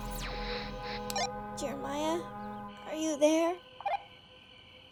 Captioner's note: walkie-talkie beeps